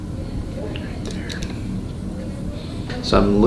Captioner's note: whispering